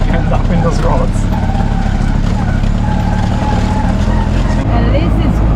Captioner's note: rickshaw engine